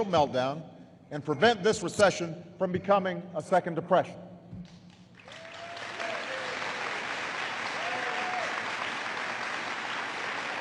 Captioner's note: applause